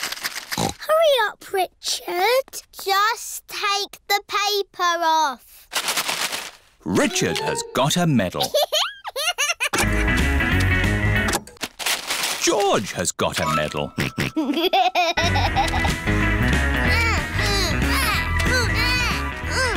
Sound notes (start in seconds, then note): 0.8 snorts; 13.9 snorts and laughs; 16.8 both grunting